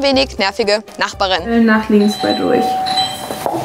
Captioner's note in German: Türklingel